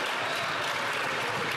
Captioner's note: some Applause